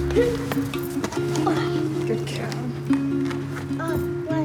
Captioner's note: grunts